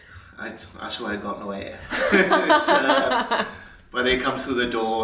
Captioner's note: laughs